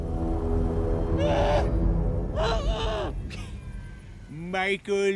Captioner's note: muffled shouting